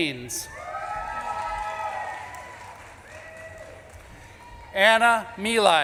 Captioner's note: audience claps and cheers